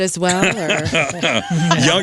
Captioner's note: laughs